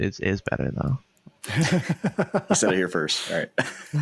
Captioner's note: laughter